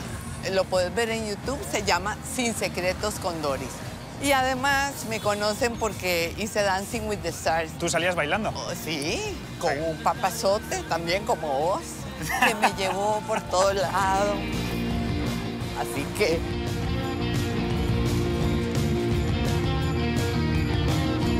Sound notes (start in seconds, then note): 12.2 laughs